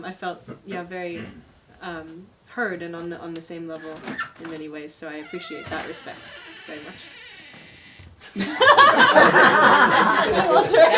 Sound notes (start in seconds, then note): 5.0 door creaks; 8.3 everyone laughs